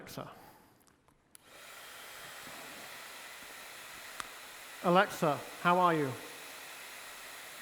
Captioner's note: blowdryer whooshes